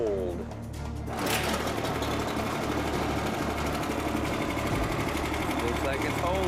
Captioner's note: engine turns over